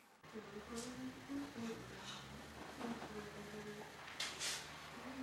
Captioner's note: humming